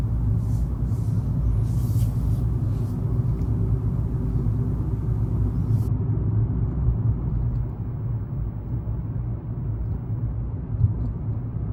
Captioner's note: car noise